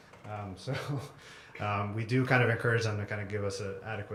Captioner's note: laugh